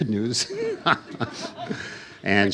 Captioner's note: laughs